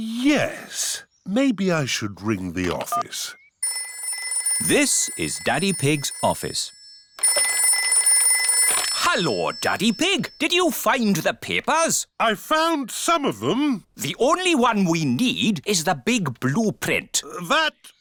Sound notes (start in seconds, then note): 4.3 phone rings